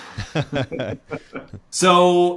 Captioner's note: both laughing